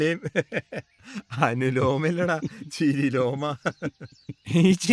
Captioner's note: laughs; laugh